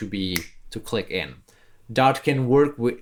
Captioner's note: snaps fingers